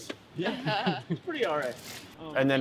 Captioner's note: laughing